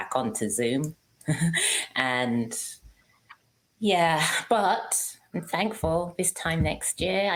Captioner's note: laughs